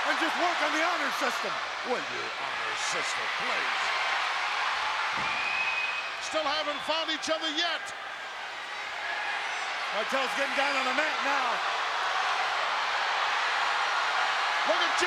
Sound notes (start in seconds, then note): 3.8 crowd cheering continues; 12.1 crowd cheering continues